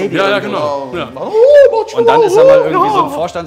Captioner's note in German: Er spricht mit hoher Stimme